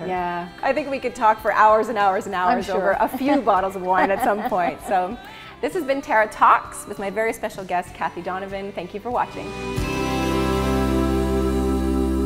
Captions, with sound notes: - Yeah. I think we could talk for hours and hours and hours. - I'm sure. - A few bottles of wine at some point. (laughing) So, this has been Tara Talks with my very special guest Kathie Donovan. Thank you for watching.